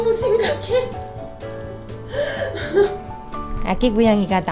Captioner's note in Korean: 웃음